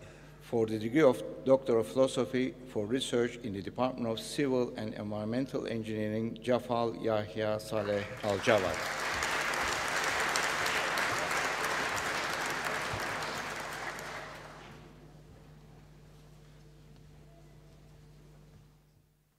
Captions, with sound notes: For the degree of doctor of philosophy for research in the Department of Civil and Environmental Engineering, Leah Barker Ewart (APPLAUSE)